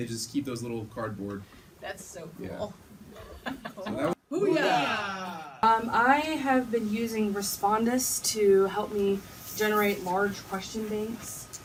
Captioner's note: team saying "boo yah" enthusiastically